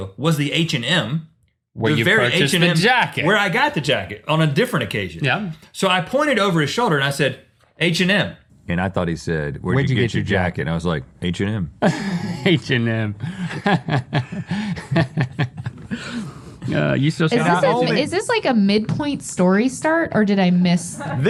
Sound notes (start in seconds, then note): 13.2 laughs